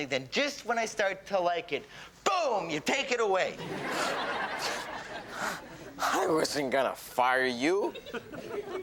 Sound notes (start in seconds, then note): 3.6 audience laughs; 5.9 scoffing